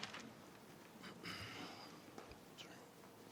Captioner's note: clearing throat